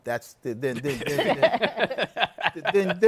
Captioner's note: laughter